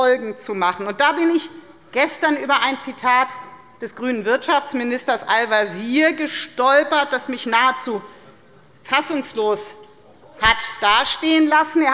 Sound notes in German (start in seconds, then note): none